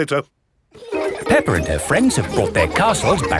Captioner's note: children laughing